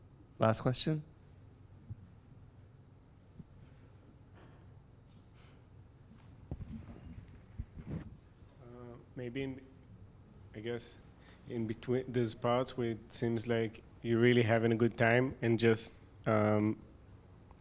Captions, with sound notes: - [Voiceover] Last question? - [Voiceover] Maybe, I guess, those parts where it seems like you're really having a good time,